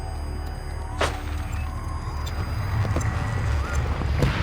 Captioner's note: gunshots